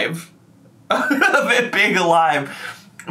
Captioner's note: laughs